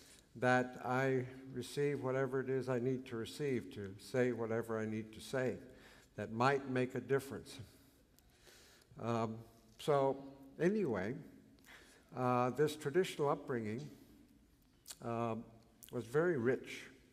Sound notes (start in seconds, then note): none